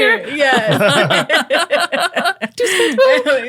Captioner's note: laughing